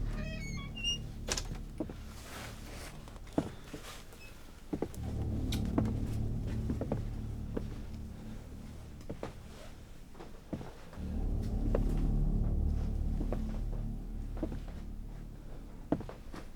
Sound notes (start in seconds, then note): 0.0 door creaking open; 4.1 slow and steady footsteps